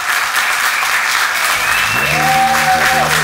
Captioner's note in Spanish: Aplausos